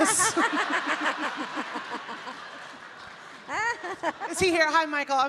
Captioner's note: Amy and audience laughing